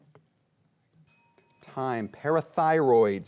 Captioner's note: bell dings